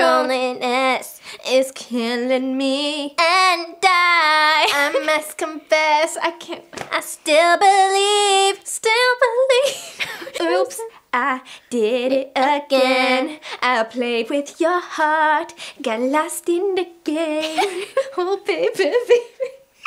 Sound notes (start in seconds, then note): 9.6 breaks into giggles